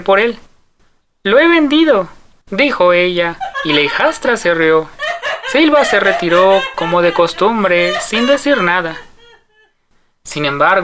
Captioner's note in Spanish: risas